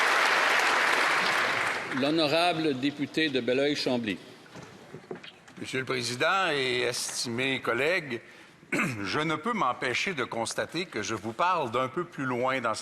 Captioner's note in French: applaudissements